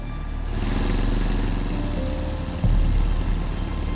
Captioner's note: engines hum